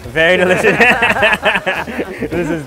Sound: laughing

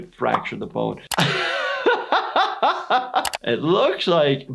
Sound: laughing

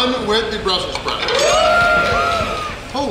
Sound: cheering & Clapping

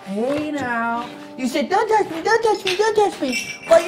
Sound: mockingly

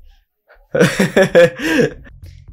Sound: chuckles

